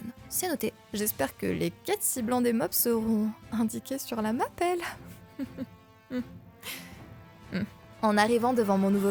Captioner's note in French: rire gêné